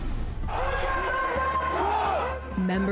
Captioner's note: crowd chanting